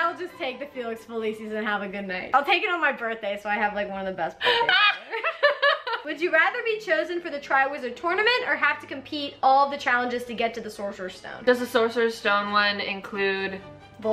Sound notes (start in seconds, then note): 4.4 both laughing